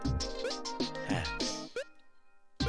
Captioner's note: sigh